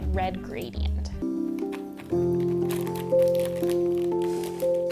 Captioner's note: plastic crunching